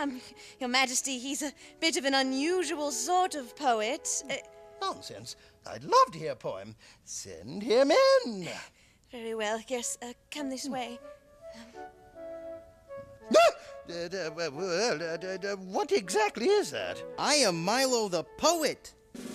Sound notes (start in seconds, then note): 13.3 gasps; 14.5 king stammering